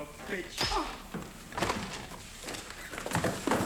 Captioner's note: sound of hitting